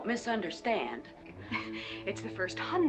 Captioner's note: scoffing